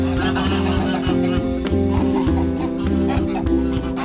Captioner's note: poultry clucking